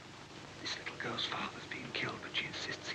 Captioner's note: whispering